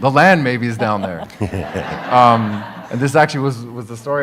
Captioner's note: audience laughs